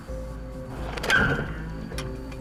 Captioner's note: tires screeching; dramatic music playing